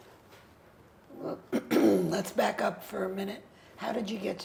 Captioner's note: clears throat